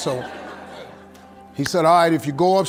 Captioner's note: audience laughing